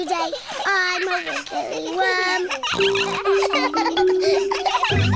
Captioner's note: all laughing; snorts